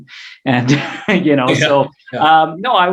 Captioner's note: chuckles